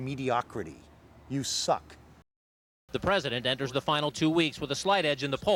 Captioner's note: newscaster voice